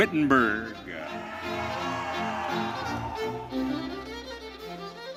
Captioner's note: audience cheering